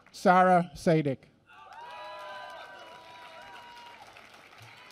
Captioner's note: applause